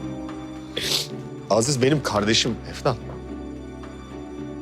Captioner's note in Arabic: شم